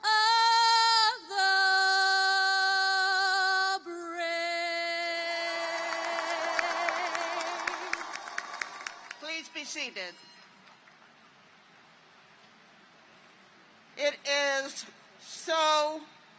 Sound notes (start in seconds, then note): 5.3 cheers and applause